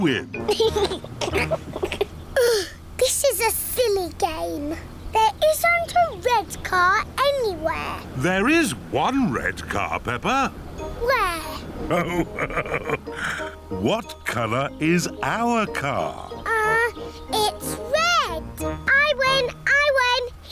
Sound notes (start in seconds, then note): 0.4 laughs; 0.8 groans; 11.8 laughs